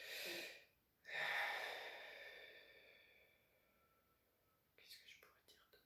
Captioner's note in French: soupir